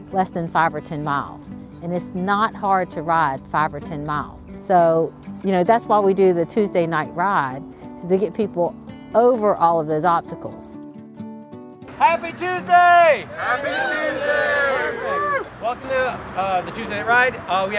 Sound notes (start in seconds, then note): 11.9 crowd